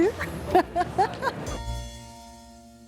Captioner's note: laughs